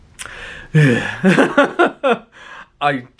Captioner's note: sighing; laughing